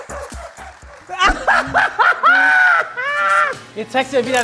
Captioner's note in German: lacht manisch